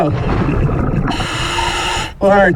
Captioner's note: regulator hissing; water burbling